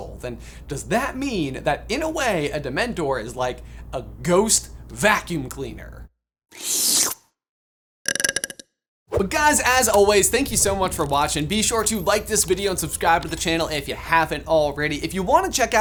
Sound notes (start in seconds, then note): 6.5 sluurrrp; 8.1 buuuuuuuurp